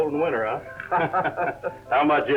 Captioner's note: both laugh